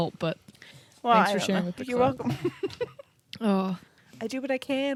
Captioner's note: laughs